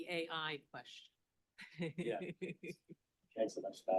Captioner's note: laughing